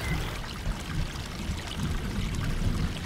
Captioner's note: distant Thunderstorm